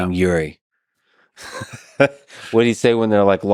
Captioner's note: Lex laughs